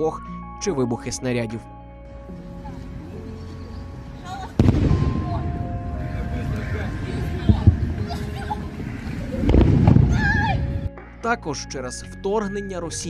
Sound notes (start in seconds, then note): 4.5 sounds of explosions; 9.3 sounds of explosions and children's cries